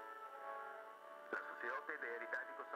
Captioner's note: speaking foreign language